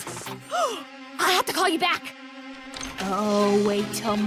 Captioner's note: gasps